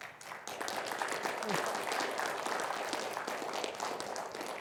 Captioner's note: audience applauds